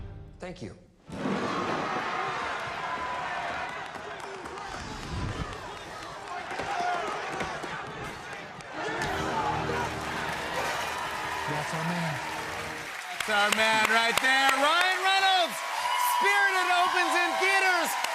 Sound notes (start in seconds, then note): 1.3 cheers and applause; 13.0 cheers and applause